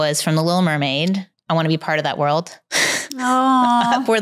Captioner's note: chuckles